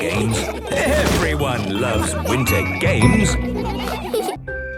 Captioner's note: laughter